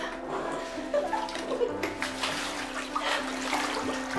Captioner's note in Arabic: ضحك